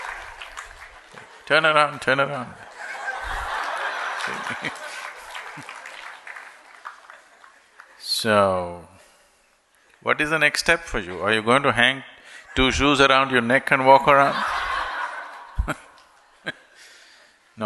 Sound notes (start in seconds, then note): 0.0 laughter/Applause; 2.5 laughter; 6.5 applause; 16.6 laughter